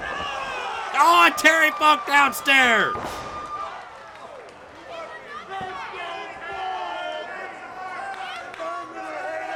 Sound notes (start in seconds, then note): 0.9 Jerry groans; 3.0 crowd cheers and yells